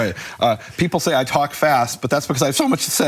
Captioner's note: none